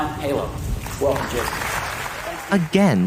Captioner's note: audience applauds